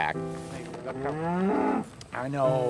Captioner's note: cow mooing